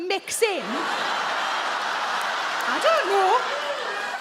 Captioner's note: audience laugh